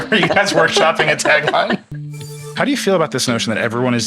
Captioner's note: all laughing